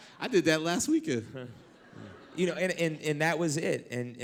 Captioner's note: laughter